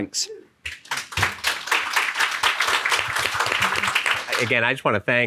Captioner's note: audience clapping